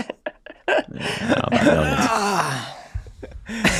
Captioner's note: laughing